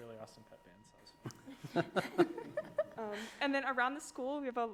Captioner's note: group laughs